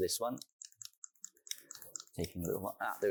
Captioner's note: remote clicking